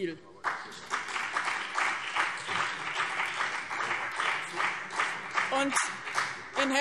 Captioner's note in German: Beifall BÜNDNIS 90/DIE GRÜNEN und CDU